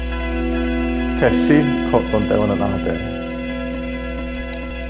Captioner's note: man speaking Zuni